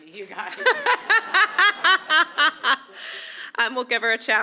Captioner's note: laughter